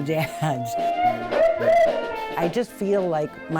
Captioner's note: polka music; whooping